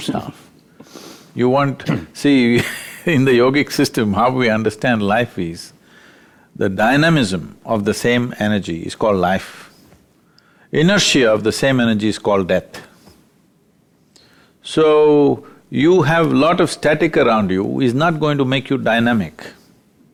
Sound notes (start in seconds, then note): 2.5 laughs